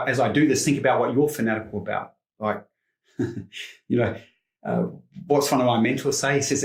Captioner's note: chuckles